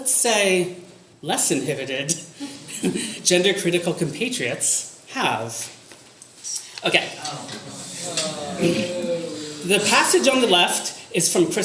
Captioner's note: audience moans